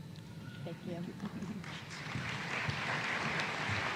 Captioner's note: applause